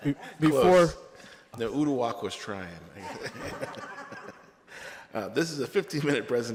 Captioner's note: laughter